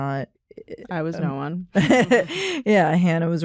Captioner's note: laughs